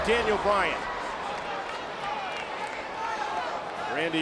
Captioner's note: crowd chattering